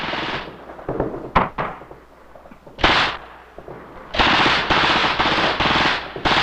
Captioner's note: explosion booming; missile whistling